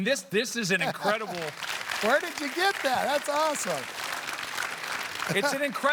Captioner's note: applause